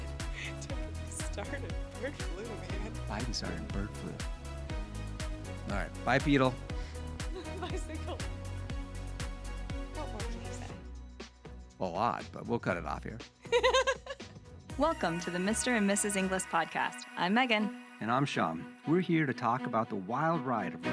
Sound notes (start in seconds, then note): 13.4 laughs